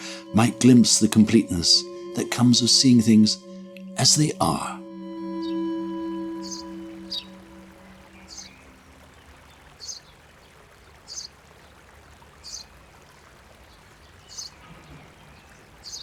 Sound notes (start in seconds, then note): 6.1 birds sing, water flows; 6.1 music fades out